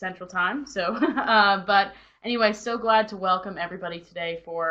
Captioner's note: chuckles